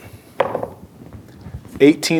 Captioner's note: dice rolling